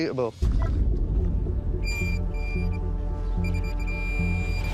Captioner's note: detector beeping rapidly